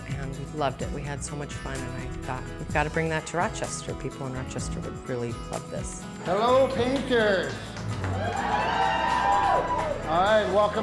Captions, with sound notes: AND WE LOVED IT. WE HAD SO MUCH FUN. AND I THOUGHT WE GOT TO BRING THAT TO ROCHESTER. PEOPLE IN ROCHESTER WOULD REALLY LOVE THIS. HELLO PAINTERS. (APPLAUSE)